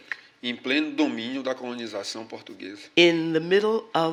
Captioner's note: speaking portuguese